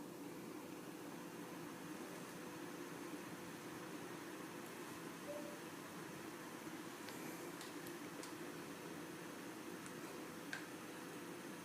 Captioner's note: fan blowing